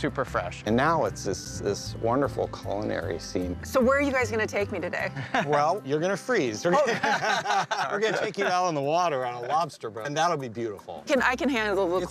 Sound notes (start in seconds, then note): 6.7 laughter